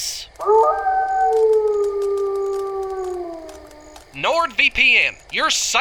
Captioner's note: wolf howling